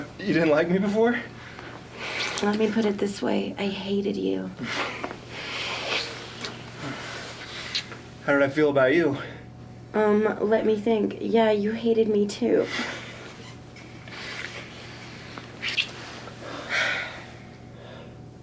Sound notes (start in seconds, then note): 5.0 kissing